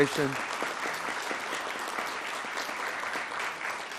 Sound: audience clapping

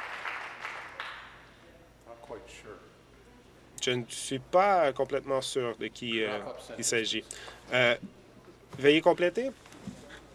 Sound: applause

